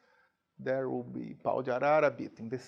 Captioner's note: speaking in a foreign language